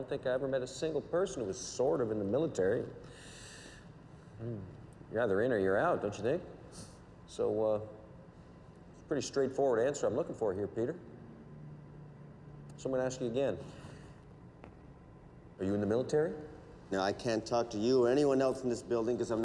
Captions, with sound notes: I don't think I ever met a single person who was sort of in the military. (sighs) Mm. You're either in or you're out, don't you think? So, uh, a pretty straightforward answer I'm looking for here, Peter. So I'm gonna ask you again. Are you in the military? - No, I can't talk to you or anyone else in this building